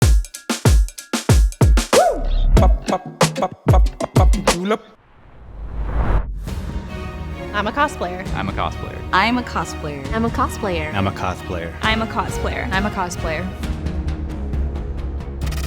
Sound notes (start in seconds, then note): 0.3 joyful dance music; 5.0 woosh; 6.9 dramatic music; 13.8 dramatic music